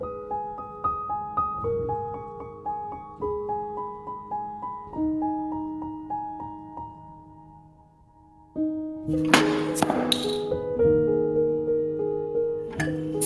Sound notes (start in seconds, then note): none